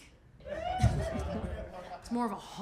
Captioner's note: crowd cheers